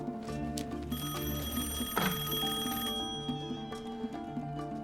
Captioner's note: rings